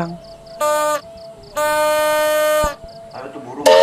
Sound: the Shunter blows His whistle Angrily

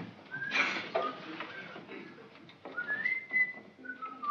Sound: whistling

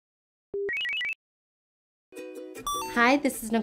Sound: electronic beeps; light music

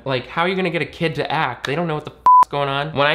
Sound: beep

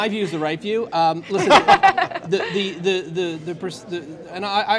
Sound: laughter

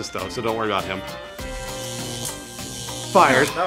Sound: electronic buzzing

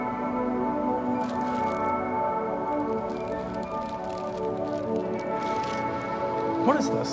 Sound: bag crinkles

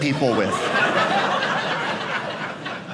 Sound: audience laughing

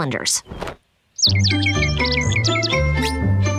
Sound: chirping

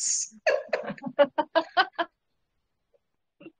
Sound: laughing

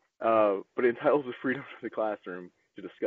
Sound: chuckles

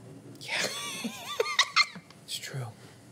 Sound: laughter

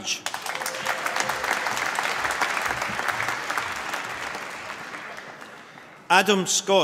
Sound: applause

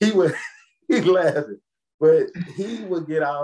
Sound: laughs

